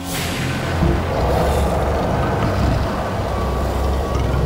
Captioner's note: Growling